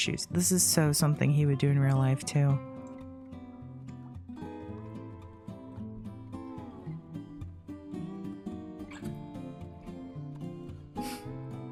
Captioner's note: chuckle